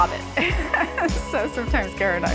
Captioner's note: laughing